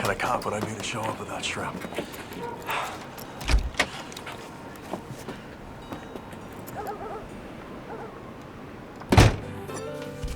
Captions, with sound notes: What kind of cop would I be to show up without shrimp? (door clicking) (dog barking)